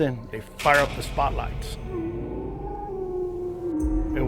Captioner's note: animal howling